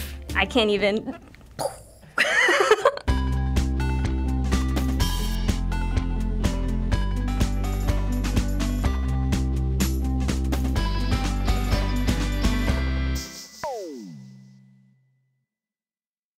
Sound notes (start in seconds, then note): 2.2 giggles; 2.9 upbeat theme music